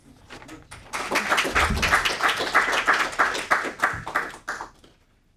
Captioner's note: audience applauding